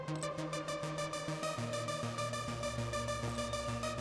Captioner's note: none